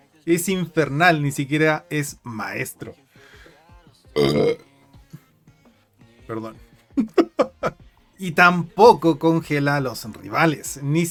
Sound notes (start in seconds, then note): 4.1 belch incoming